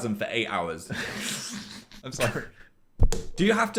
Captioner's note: Dan and Phil laugh